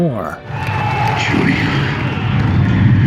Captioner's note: applause